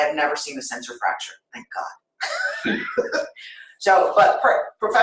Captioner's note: laughter